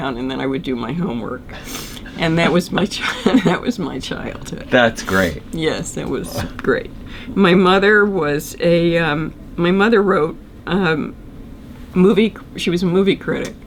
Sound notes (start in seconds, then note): 1.6 laughs